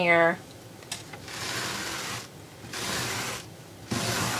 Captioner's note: tool scraping